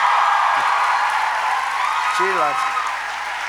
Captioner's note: applause